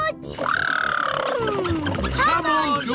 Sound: makes sputtering noises

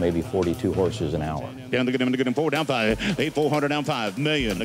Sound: auctioneers calling

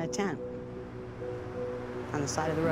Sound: cars passing

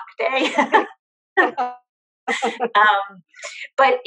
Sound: laughs

